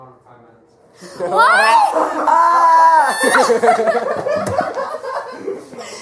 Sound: screams of.. worry? excitement?

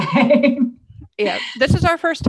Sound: laughs

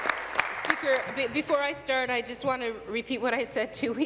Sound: applause

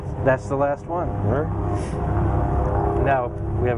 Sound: engine roaring

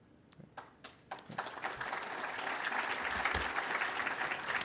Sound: applause

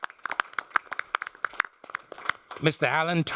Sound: applause

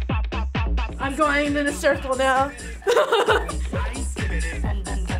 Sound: laughs

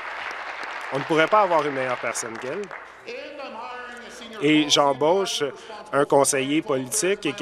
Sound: applause

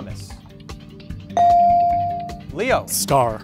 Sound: bell dings

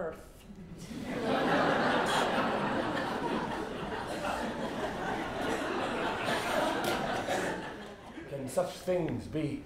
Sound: laughter

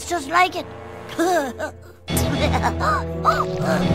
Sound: laughs; ominous music

